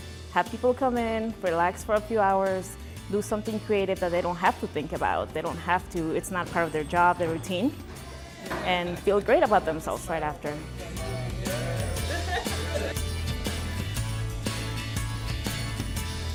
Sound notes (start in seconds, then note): 11.0 conversation, laughter; 13.5 bright music